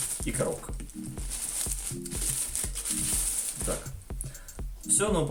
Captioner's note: sounds of background music and more tearing oilcloth